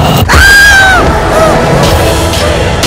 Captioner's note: Screams